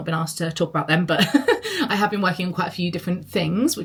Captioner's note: laughs